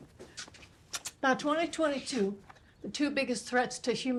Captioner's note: lips smack